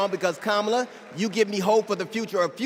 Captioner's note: applause